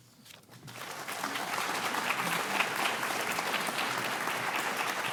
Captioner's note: audience applauding